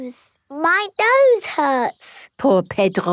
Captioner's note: nasal voice